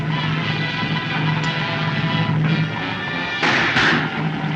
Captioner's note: trigger Clicks